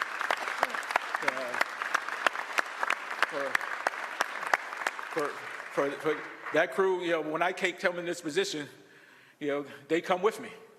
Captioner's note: applause